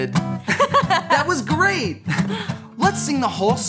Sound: laughs

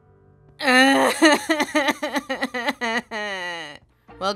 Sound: sobbing

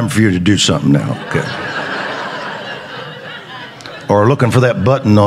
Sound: congregation laughing

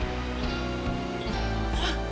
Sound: gasps

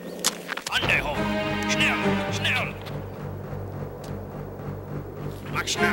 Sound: speaks foreign language

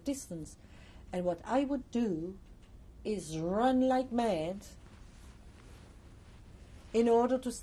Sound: pauses for 3 seconds

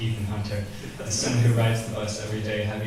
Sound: audience chuckles

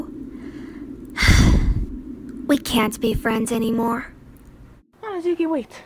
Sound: sigh

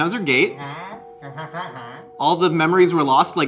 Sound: Glorp-Glorp exclaims

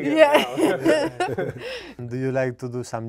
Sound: group chuckle

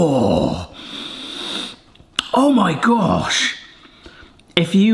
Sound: draws breath

